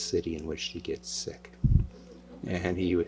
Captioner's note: laughter